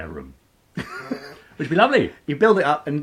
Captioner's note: laughing